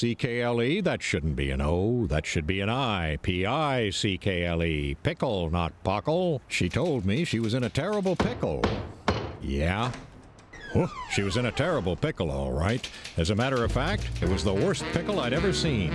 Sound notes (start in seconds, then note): none